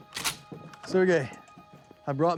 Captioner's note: gun cocks